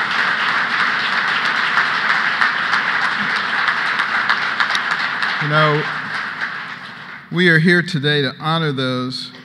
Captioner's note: applause